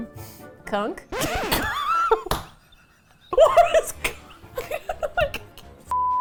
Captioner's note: record scratch; both laugh